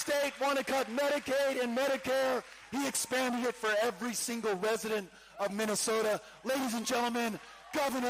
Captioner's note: cheering